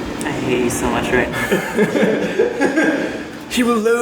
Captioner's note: laughter